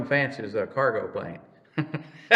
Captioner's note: laughs